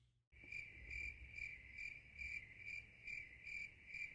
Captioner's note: crickets chirp